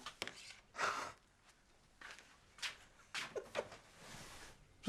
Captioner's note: Loz chuckles